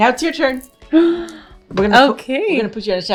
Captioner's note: gasps